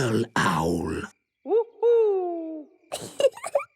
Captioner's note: Peppa giggling